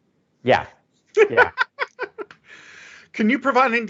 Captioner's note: laughs